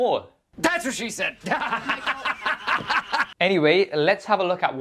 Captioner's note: laughs